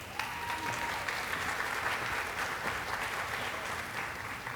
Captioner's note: audience applauding